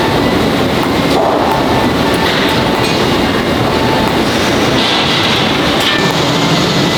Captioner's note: welding